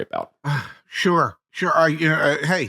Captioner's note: sigh